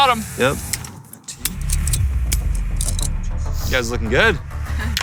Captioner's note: metal clanking